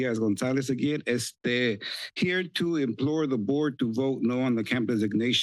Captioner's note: foreign language